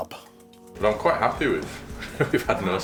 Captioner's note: laughs